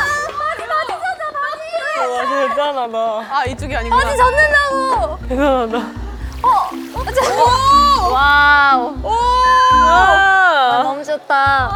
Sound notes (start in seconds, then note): 6.2 splash